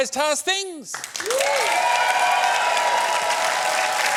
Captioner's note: cheering, applause